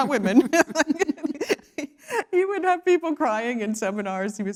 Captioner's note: laugh